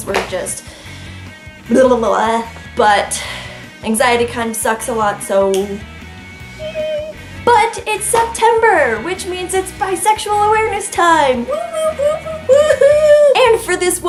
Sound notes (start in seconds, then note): 1.6 frustrated tongue wiggling noises; 6.0 snaps; 10.0 excited wooing